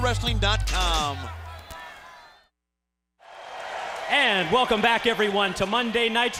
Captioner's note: crowd cheering